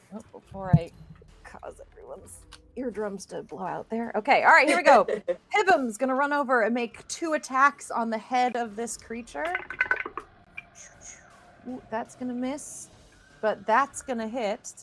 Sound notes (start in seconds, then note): 9.4 dice rolling